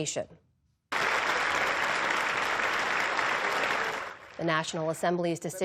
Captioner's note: applause